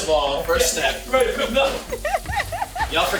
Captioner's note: laughing